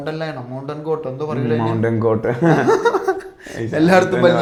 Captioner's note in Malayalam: പൊട്ടിച്ചിരി